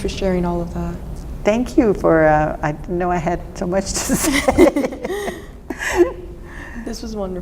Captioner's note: laughter